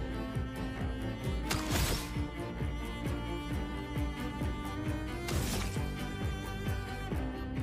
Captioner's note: gunshots